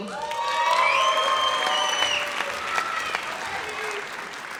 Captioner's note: audience cheers